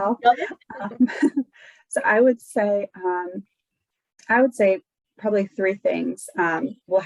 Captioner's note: chuckles